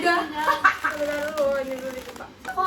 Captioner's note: laughs